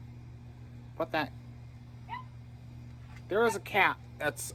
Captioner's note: Ella barks from inside